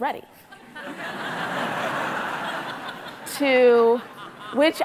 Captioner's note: audience laughing